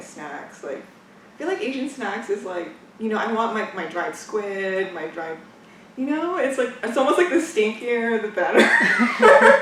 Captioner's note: laughs